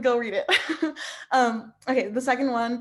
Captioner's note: laughing